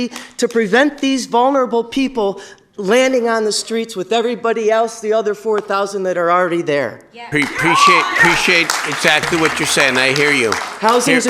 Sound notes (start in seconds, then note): 7.3 applause